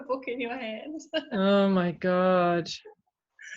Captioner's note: laughs